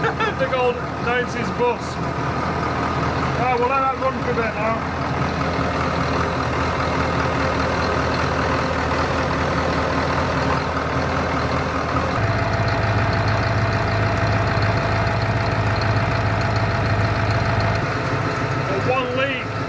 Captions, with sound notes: The old Nancy's bus Oh well that had one for a bit now [engine noise] One lead